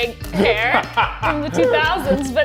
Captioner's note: laughs